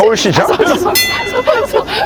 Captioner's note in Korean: 벨 소리